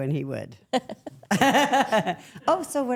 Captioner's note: everyone laughs